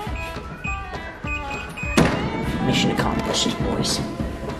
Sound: keypad beeping

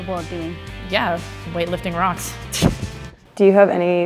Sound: chuckles

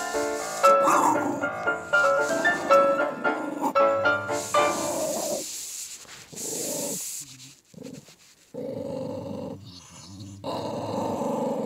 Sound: growling growling growling

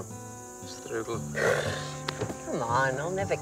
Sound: blows raspberry

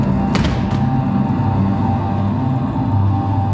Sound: thumping

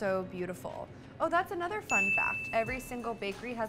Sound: bell dinging

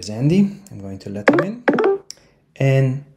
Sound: software chimes

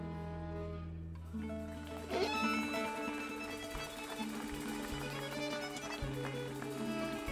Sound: gentle folk music; audience applauding

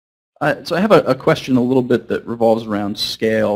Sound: voiceover

